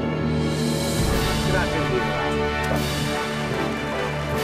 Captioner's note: speaking Swedish; celebratory music; clapping